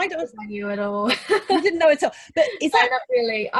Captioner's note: laughing